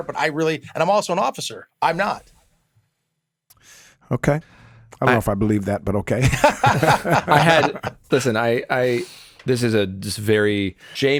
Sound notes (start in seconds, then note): 6.2 both laugh